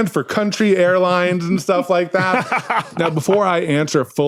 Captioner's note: laughs heartily